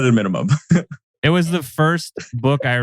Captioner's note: laughs